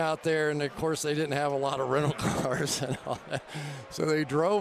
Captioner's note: laughs